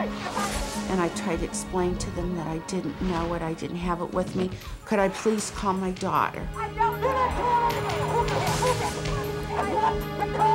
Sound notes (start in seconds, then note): 7.4 shouting